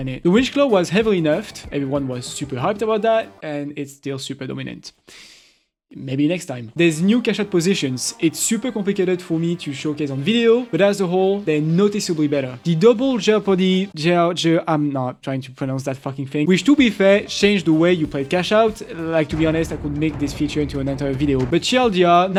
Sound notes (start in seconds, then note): 5.0 inhale